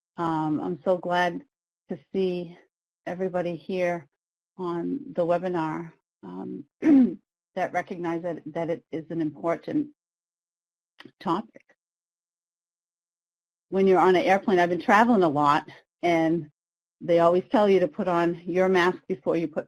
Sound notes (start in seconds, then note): 6.8 clears throat